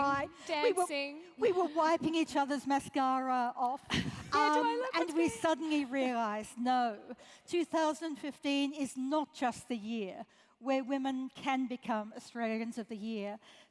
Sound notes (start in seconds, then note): 3.9 laugh